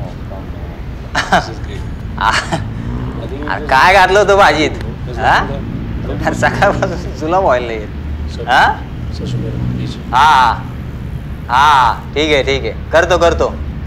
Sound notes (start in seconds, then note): 4.0 Advait and Manjot murmuring